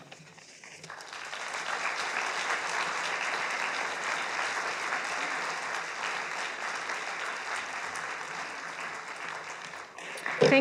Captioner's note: applause